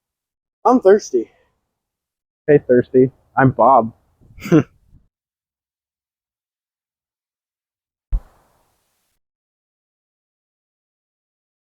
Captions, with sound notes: I'm thirsty. Hey, thirsty. I'm Bob. *Laughs*